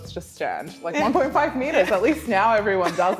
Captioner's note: laughs